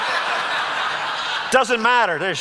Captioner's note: audience laughs